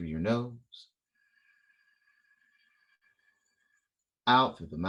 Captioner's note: inhale